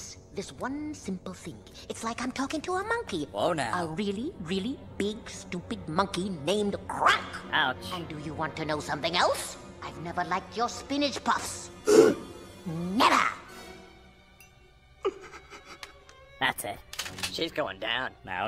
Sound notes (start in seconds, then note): 11.9 gasps; 13.4 sobs